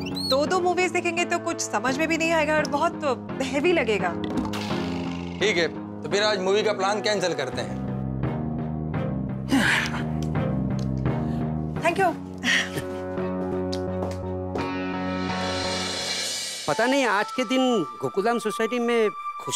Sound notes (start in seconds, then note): 9.4 sighs